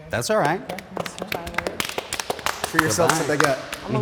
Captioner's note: group clapping